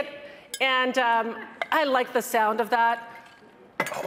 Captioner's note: metal clanging